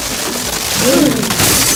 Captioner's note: gasp